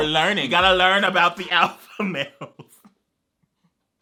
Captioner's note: laughs